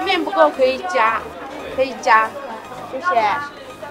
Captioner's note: speaking in Mandarin